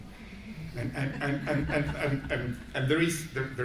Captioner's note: audience laughing